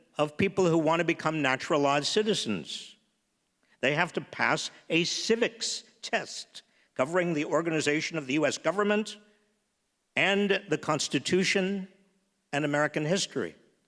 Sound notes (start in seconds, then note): none